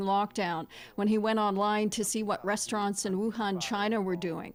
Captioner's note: speaking Foreign Language